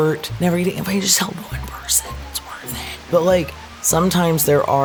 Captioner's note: whispering